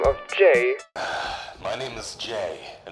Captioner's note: sighhhhhh